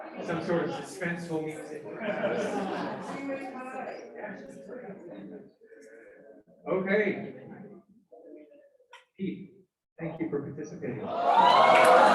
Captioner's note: cheering and Applause